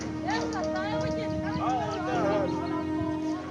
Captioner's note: indistinct chatter